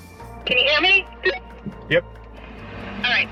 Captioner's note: walkie talkie beeps